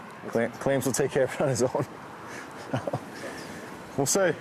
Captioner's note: laughing